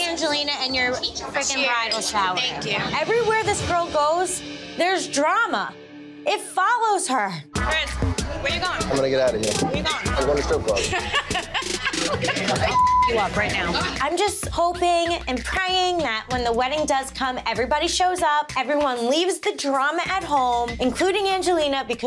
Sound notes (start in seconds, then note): 10.6 laughing; 12.6 beep